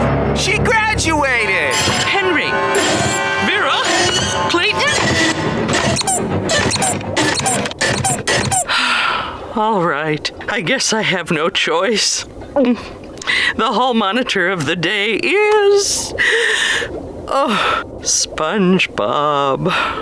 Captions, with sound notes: She graduated! Henry?! Vera?! Clayton?! [squeaking] [sighing] Alright, I guess I have no choice. [gulping] The hall monitor of the day is... [sighing] SpongeBob.